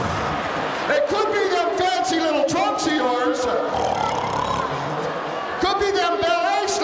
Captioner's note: snores